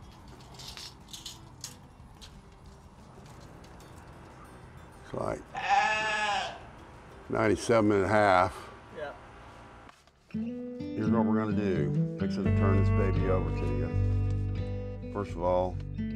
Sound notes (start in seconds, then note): 7.1 sheep bleating